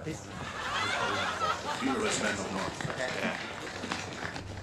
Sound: speaking Finnish

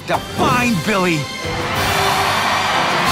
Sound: all cheering

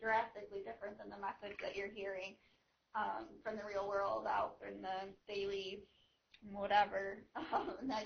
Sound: laughing

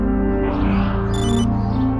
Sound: ear-comm beeps

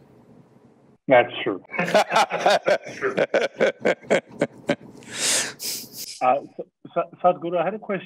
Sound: both laugh

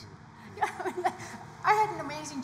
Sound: laughs

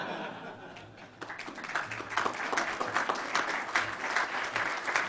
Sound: audience laughs; audience applauds

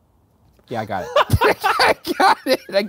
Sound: both laughing

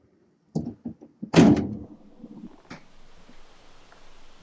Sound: door slams

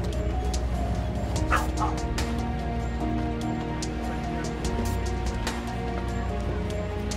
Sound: dogs barking

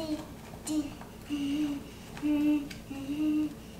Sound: humming

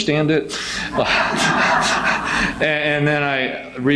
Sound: audience laughs

